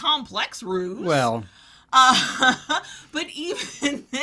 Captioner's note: chuckles